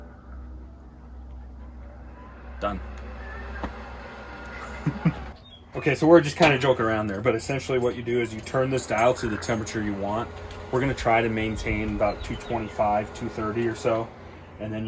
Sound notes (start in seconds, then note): 3.2 The Traegor starts revving; 4.5 chuckles